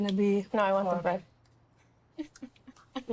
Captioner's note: laughs